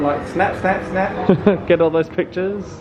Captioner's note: laughing